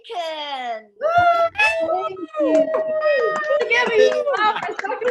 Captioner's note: attendees applauding